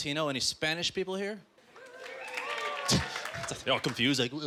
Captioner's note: scattered applause